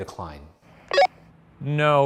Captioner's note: radio beeps